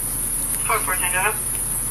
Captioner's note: officer On Radio